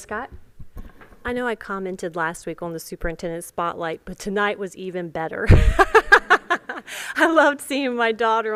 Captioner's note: laughter